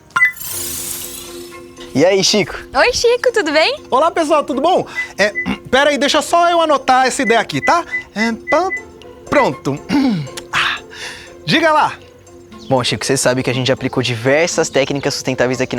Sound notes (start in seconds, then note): 0.1 click; 9.8 clearing throat